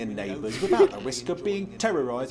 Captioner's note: chuckles